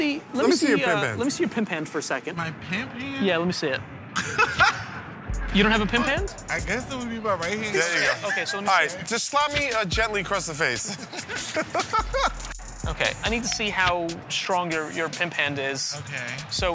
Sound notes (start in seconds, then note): 4.1 laughs; 10.7 laughter